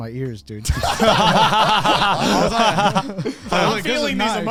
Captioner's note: all laughing